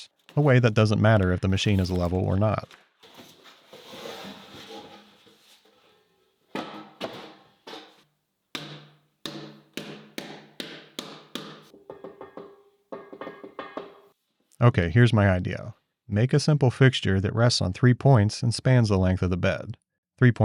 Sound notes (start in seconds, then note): 8.5 tube whacks; 12.9 metal dings